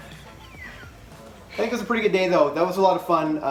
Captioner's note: both laugh